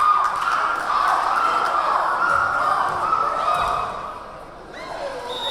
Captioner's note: yelling; cheering; clapping; cheering